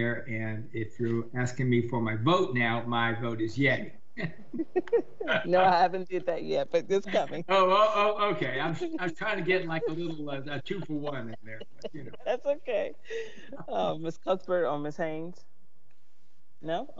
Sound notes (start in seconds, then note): 4.7 members laughing; 7.8 laughs